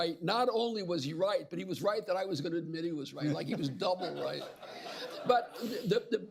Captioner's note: laughter